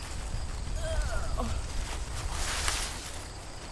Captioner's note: groans